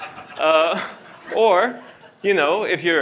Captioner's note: laughter